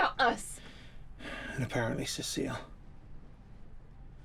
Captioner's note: sighs